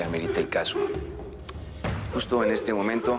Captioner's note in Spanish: Sollozos